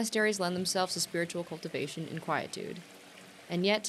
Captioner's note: water trickling